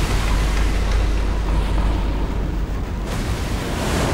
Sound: wind whirring

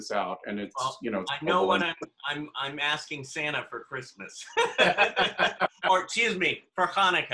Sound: laughter

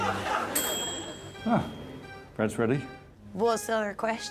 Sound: bell dings

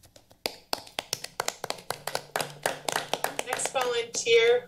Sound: all applauding

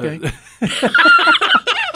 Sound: both laugh

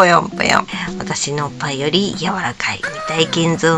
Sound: laughs

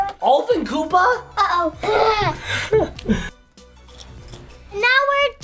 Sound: laughing

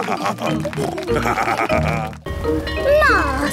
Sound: laughing; snorting; bell ringing

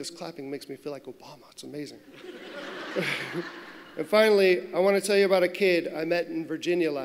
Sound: laughter

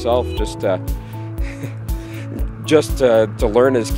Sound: laughs

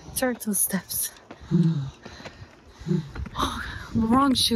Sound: both breathing heavily

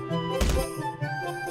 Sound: camera hit

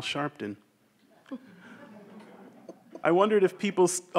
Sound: everyone chuckles

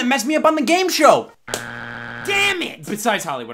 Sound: buzzer beeps

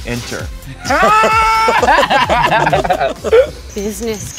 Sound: laugh

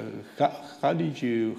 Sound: none

